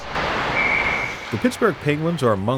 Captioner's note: whistle blows